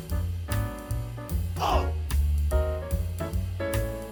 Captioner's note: haha